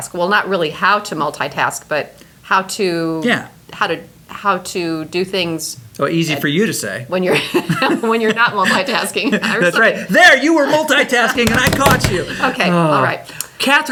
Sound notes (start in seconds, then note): 9.4 laugh